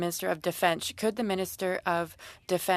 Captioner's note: speaking French